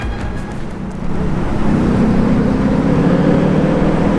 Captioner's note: engine roars